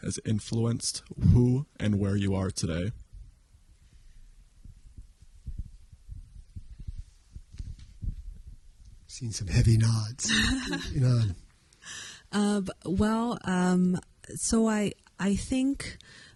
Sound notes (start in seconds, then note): 10.2 laughs